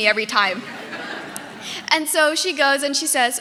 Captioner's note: audience laughing